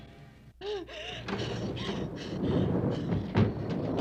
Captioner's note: gasping